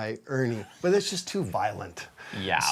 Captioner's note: laughing